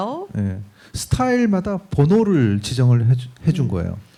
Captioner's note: speaking korean